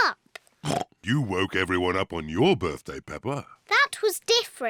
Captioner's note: oinks